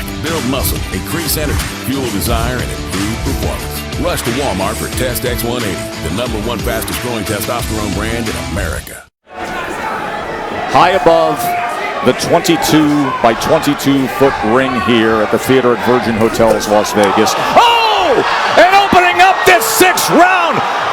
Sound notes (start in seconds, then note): 0.2 whistle; 9.4 bell rings